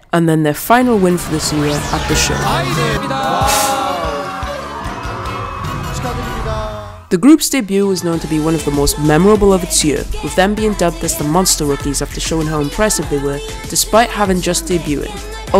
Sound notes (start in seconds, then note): 2.4 cheers